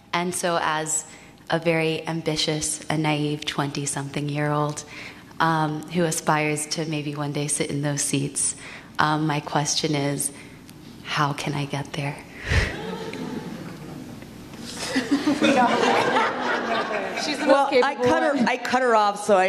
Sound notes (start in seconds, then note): 12.6 audience laughs; 14.6 speakers laugh